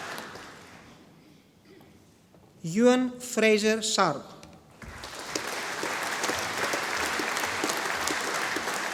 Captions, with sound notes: Euan Fraser Sharp. (audience applauding)